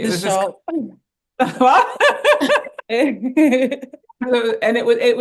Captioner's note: laughs